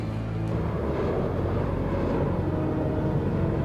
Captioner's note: jet flying